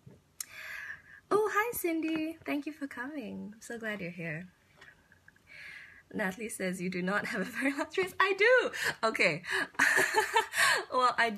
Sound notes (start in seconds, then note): 9.8 laughs